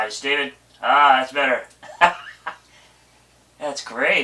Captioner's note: laughs